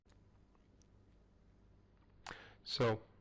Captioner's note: pause